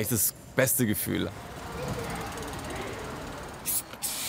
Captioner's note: huge street noise; spray noises